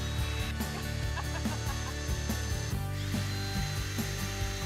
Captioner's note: drilling sound